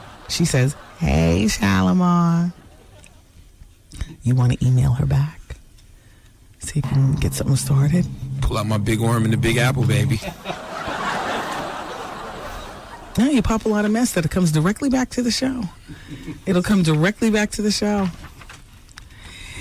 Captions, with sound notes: She says, hey, Shalimar, you wanna email her back? See if you can get something started. Pull out my big worm in the Big Apple, baby. (laughing) Now you pop a lot of mess that it comes directly back to the show. It'll come directly back to the show.